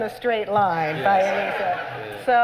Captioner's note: laughter